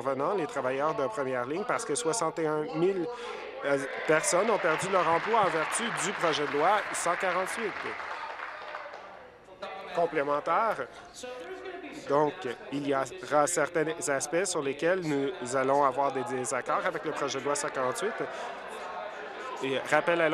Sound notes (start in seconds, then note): 9.3 applause